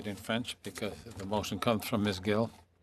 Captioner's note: speaking French